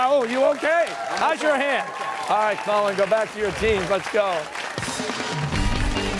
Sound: cheers and applause

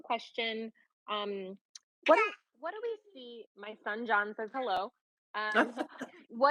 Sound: baby sounds; laughing

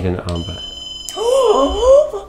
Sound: robot ringing; inhales excitedly

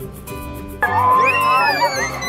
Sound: playful music; cheering

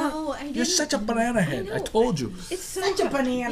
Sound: voiceover

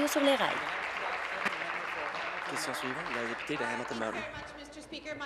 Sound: applause

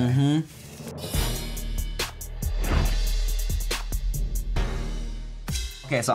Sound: intense hip-hop music; air whooshes

